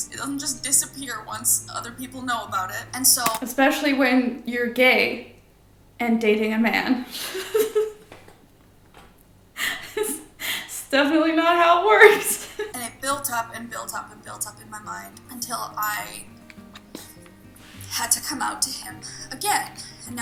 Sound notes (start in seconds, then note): 7.4 laughs